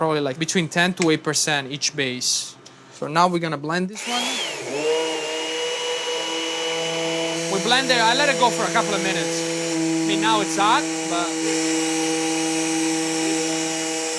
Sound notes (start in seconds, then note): 4.9 blender whirring; 12.2 blender whirring